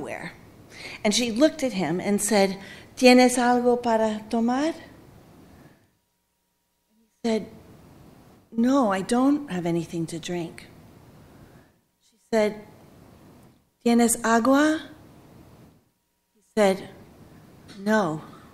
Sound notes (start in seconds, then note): 3.7 speaking Spanish; 12.8 speaking Spanish